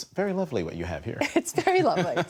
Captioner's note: laughter